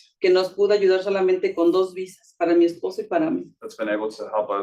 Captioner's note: speaking Spanish